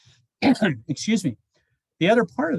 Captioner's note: clears throat